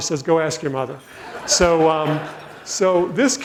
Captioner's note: audience laughs